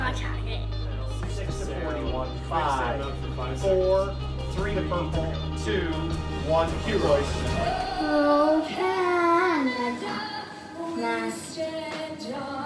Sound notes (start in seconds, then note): 5.9 mixed chatter